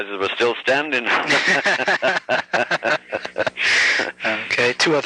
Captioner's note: both laugh